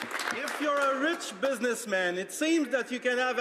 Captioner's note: some Applause